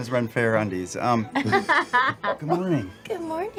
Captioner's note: laughs